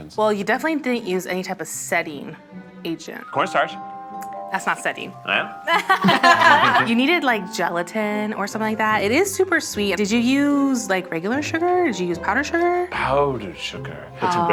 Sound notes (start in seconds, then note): 5.7 all laughing